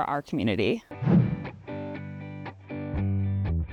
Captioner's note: air whooshes; spirited music